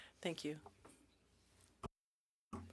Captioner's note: speaking French